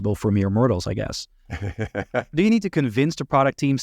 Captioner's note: laughs